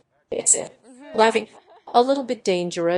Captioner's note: laughing